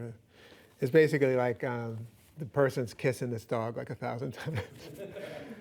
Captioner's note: laughing; laughs